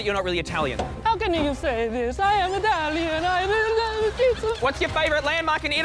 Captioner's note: italian accent